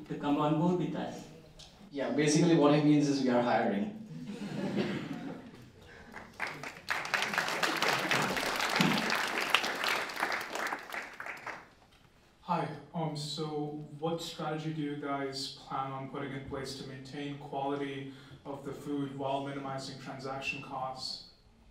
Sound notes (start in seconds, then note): 4.1 laughter; 4.3 applause